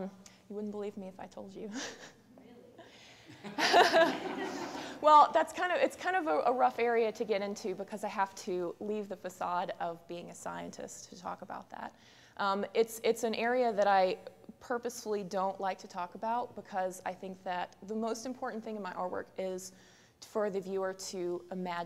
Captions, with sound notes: >> You wouldn't believe me if I told you. [laughs] [background talk] [laughter] Well, that's kind of, it's kind of a, a rough area to get into because I have to leave the facade of being a scientist to talk about that. It's, it's an area that I purposely don't like to talk about because I think that the most important thing in my artwork is for the viewer to imagine,